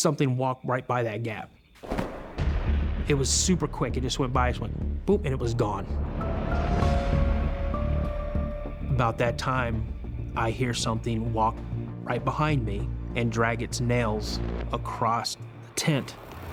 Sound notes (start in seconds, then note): none